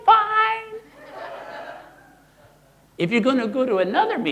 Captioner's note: audience laughing